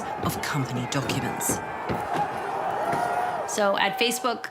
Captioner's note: protesters yelling